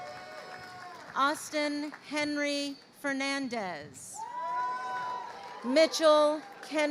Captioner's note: crowd cheering